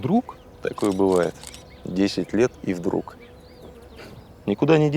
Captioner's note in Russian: щелчок фотоаппарата